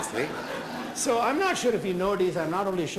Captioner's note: laughter